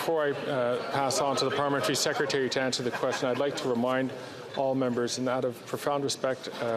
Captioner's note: chatter